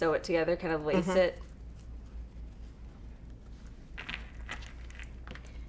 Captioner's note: hums in agreement